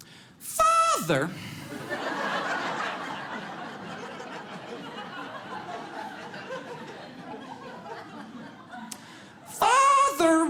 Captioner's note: audience laughs